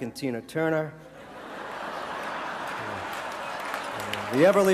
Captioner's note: audience laughter